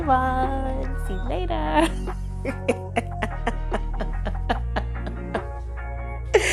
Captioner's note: laughing